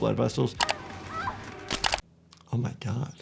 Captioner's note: computer mouse clicks; woman grunting